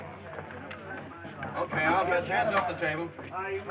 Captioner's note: men chattering